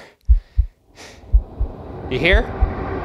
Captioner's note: sighing